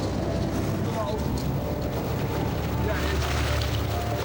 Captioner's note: boat droning; wind whooshing; waves crashing